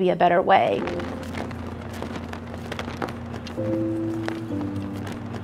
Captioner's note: flag flapping in wind